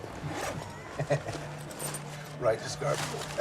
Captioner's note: laughs; Jack laughs